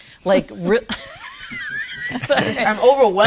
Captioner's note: laughs